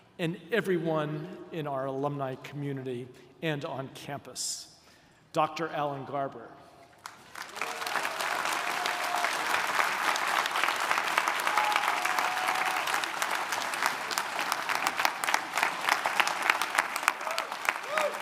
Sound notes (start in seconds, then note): 7.3 audience applauding; 15.0 audience applauding